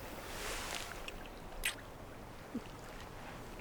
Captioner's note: kissing